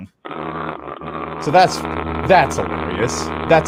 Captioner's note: balloon buzzing in lower pitch